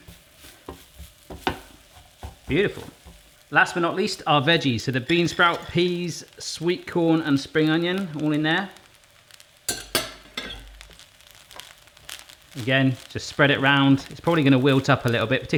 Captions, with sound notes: Beautiful. Last, but not least, our veggies. So, the bean sprout, peas, sweet corn, and spring onion all in there. (dishes clanking) Again, just spread it 'round. It's probably gonna wilt up a little bit,